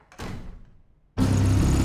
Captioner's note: door closes; tense music